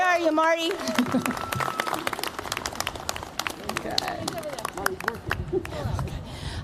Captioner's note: applause